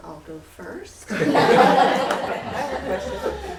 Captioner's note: laughter